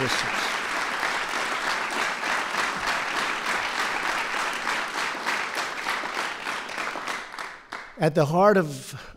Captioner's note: applause